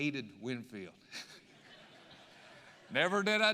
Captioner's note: audience laughing